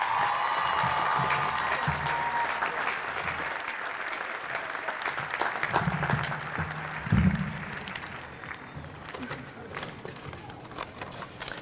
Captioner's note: applause